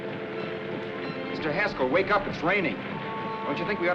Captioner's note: none